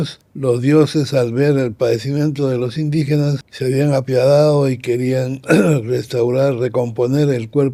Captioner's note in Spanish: carraspeo